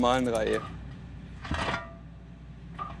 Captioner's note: metallic rumbling